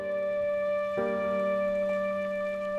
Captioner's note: none